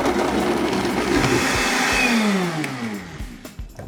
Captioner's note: blender grinds